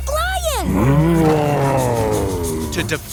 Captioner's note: roaring